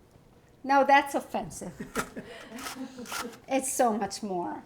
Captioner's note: people laugh